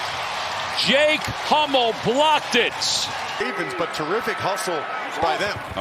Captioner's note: cheers and applause